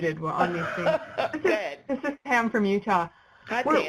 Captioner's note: laughing